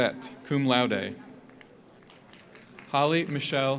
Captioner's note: audience applauds